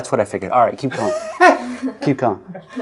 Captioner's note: out of frame weezing laughter